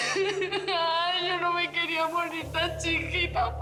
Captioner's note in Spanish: Sollozos